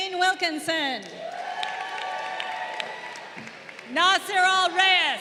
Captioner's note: crowd cheering